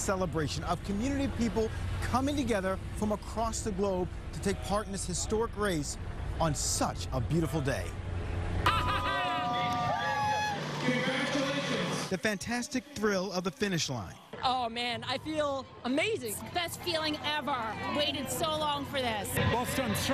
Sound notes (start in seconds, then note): 12.6 cheers and applause